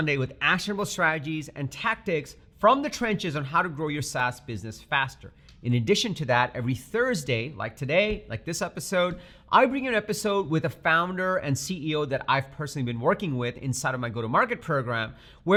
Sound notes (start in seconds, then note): none